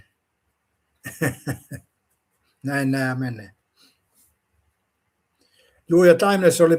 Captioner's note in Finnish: naurua